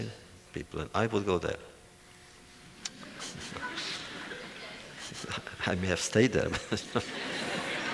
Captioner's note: laughter